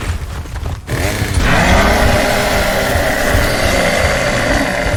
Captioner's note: chainsaw whirring